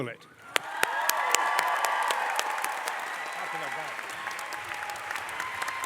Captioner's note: crowd cheering and applause